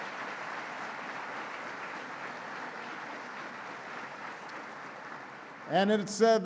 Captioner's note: applause